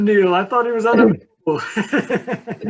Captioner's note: laughs